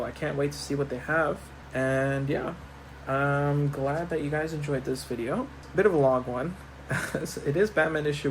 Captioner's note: chuckles